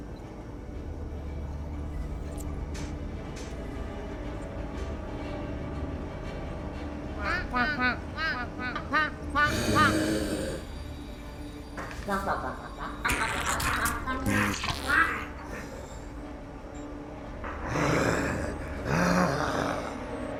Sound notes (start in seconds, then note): 6.9 ducks quacking loudly